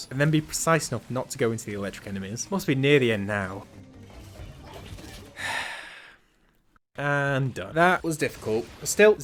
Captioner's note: deep sigh